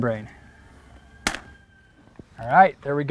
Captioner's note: chalk line snaps against the wall, no additional audio